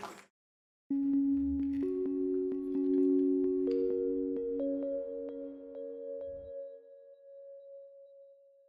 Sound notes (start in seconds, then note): 0.5 logo chiming